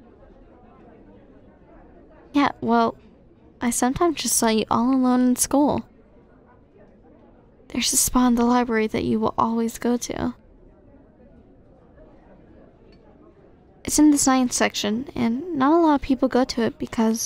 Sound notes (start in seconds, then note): none